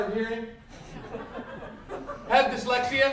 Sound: laughter

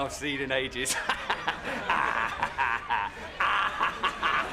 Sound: clown laughing

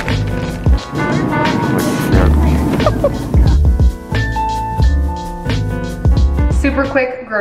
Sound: laughing

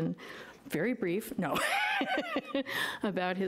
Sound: laughs

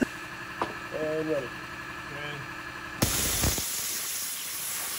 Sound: laughs; machine whirring

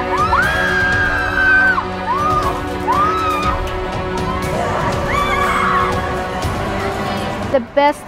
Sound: screaming

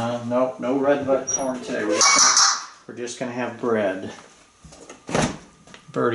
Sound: Einstein makes the banging sound

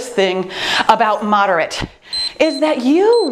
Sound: time beeps

